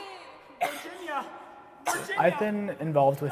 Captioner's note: coughing